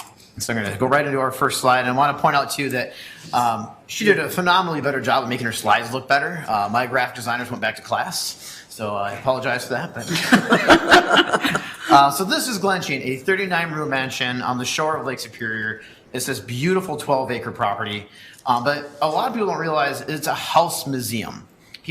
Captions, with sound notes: So I'm gonna go right into our first slide and I want to point out to you that, she did a phenomenally better job than me at making her slides look better. My graph designers went back to class so I apologize for that. (members laugh) So this is Glensheen, a 39 room mansion on the shore of Lake Superior. It's this beautiful 12 acre property but a lot of people don't realize it's a House Museum.